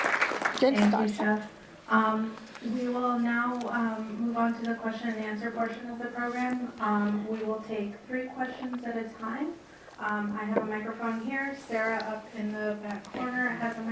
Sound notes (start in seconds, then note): 1.6 speaks in Turkish